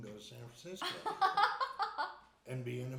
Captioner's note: laughing